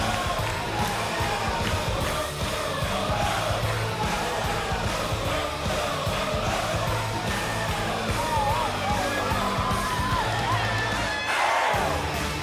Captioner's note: cheers and applause